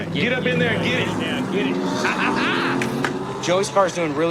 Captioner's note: laughs; claps